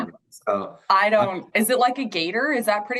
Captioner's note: laughter drowns out speaker